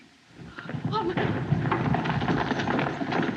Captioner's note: woman Exclaims